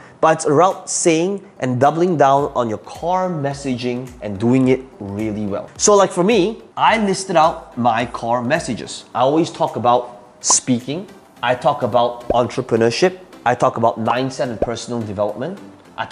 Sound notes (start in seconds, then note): 12.3 bubble popping; 15.4 bubble popping